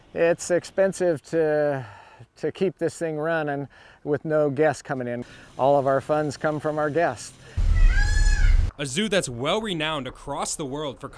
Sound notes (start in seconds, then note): 7.5 peacock squawks